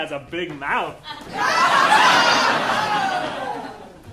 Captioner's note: audience laughing